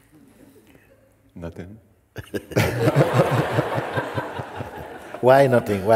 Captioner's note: laughter